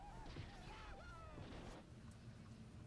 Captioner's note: exclaiming over TV